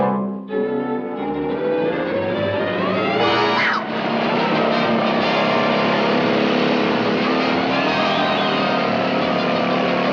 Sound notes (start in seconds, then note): 0.1 tense music; 3.8 Daffy shouting; 4.6 water whirring